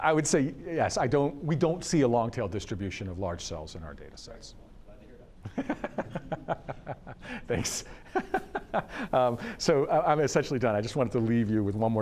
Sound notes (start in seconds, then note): 5.7 laughs